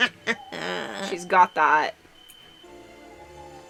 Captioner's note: evil laughter